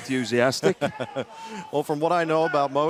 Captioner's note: laughter